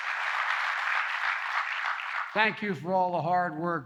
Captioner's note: applause